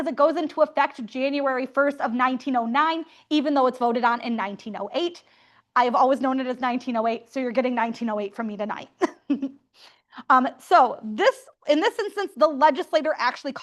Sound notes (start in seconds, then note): 9.0 laughter